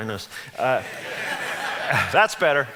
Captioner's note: audience laughs